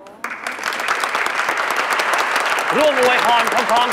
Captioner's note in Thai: เสียงปรบมือ